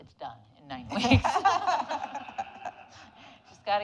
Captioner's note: audience laughing